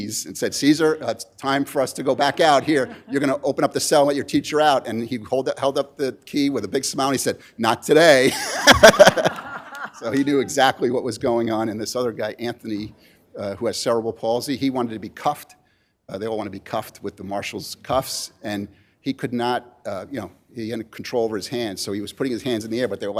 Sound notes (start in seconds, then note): 8.2 laughter